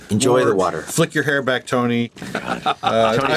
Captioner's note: laughs